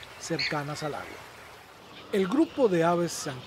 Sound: birds chirps and calls

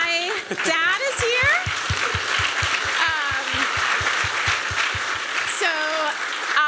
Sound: applause

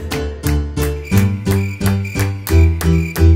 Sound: crickets

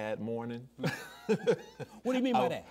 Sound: laughs

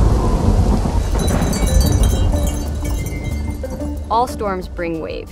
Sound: wind chimes

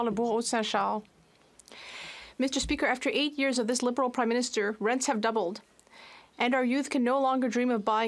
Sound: speaking French

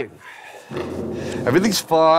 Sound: bombing continues

